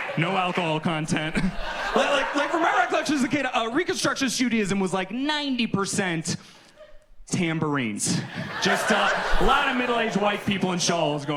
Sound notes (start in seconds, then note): 1.1 chuckles; 2.1 audience laughs; 7.3 audience laughs